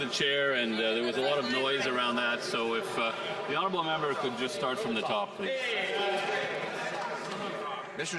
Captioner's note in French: voix de l'interprète